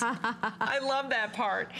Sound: laughter

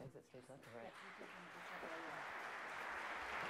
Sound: applause

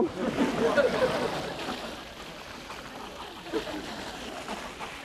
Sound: audience laughing; laughs

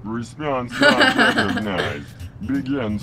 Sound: laughs

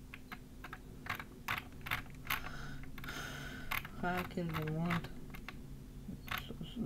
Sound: sighs

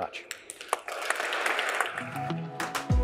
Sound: applause

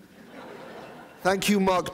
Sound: audience laughing

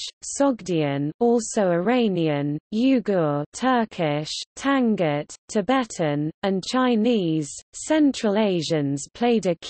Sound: Turkish

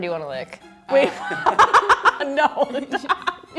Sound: laughs

